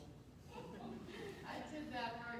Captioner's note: faint laughter